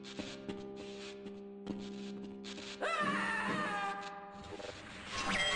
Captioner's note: footsteps